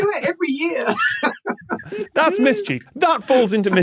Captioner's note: laughs